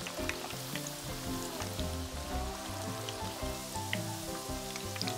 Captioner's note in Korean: 소리만 들어도 배고파지는 마법같은 소리